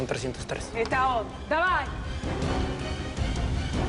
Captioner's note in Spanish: Hablan en otro idioma